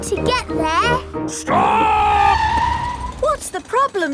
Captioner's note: tires screeching